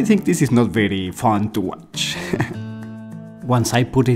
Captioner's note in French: rires